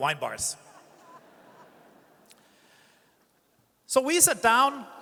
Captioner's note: audience chuckles